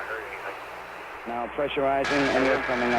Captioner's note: radio transmission